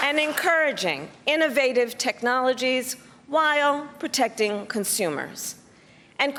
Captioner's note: applause